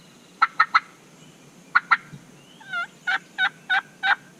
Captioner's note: turkey call